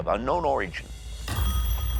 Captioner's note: phone rings